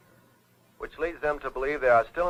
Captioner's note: radio Announcer